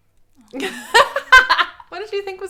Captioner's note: laughs